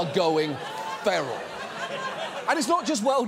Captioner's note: audience laughs